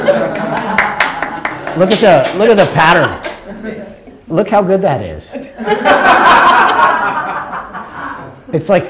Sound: laughter; laughter

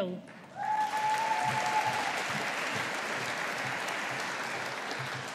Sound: audience applauding

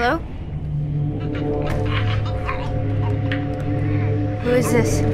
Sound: strained grunting; strained grunting

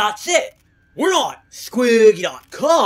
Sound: none

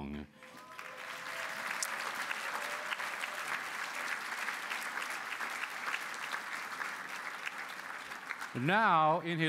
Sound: applause

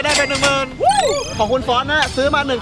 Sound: cheering

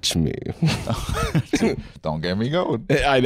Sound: laughing

